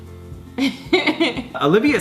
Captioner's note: laughs